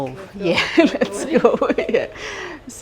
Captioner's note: laughing